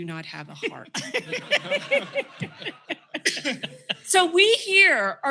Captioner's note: laughter